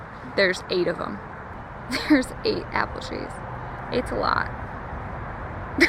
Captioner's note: laughs